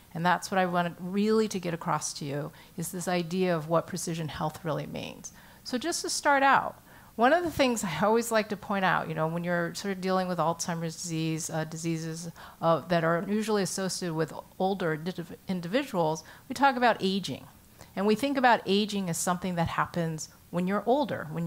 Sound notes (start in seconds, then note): none